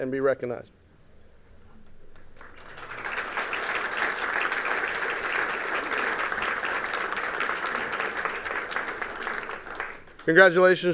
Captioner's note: applause